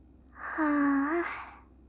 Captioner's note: long, satisfied sigh